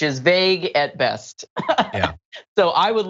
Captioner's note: laugh